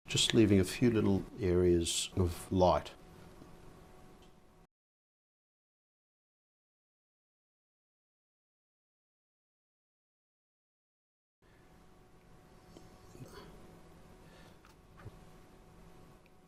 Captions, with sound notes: Just leaving a few little areas of light. [silence] [silence]